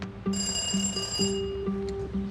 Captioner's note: doorbell rings